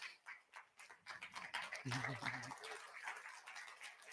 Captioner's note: audience applauds